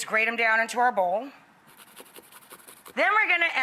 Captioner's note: quick grating